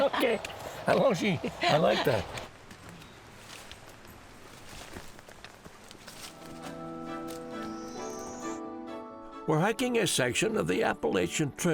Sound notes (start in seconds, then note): 0.3 non-english speech; 2.2 footsteps